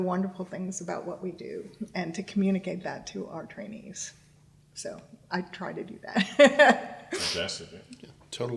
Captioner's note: laughs